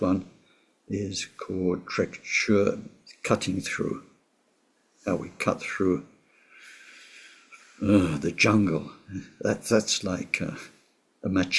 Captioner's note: tibetan